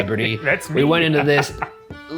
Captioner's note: chuckles